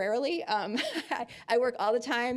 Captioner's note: chuckling